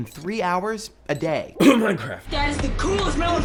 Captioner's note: coughing